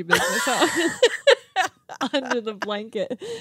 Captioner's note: laughing